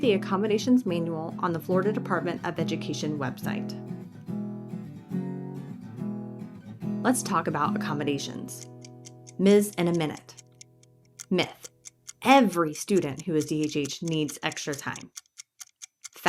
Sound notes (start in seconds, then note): 7.6 clock ticking